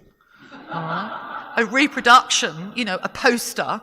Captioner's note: audience laughing